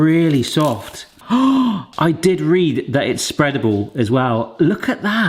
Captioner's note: gasps